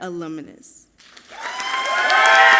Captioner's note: audience clapping and cheering loudly